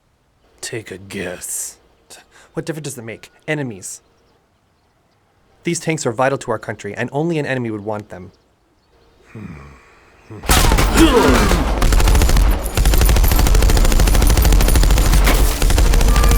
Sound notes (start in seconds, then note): 9.2 grunting; 10.4 guns firing; 12.7 suspenseful music